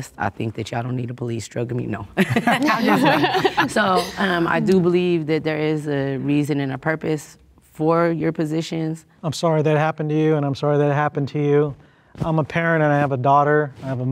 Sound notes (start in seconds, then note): 2.2 group laughing